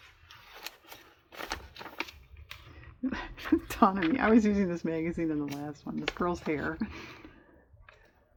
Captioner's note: laughs